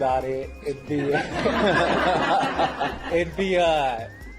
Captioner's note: laugh